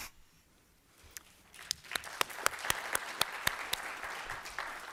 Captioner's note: applause